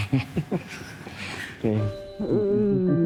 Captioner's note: chuckles